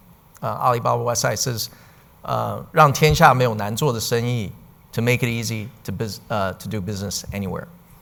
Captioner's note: speaking in Chinese